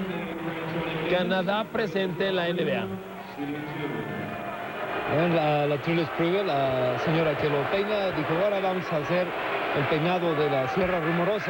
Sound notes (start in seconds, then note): 5.6 crowd chanting "Defense"